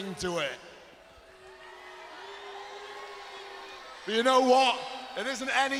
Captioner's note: crowd chatter